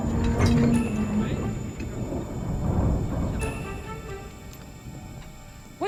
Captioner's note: ship creaks and groans